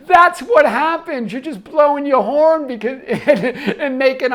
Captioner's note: laughs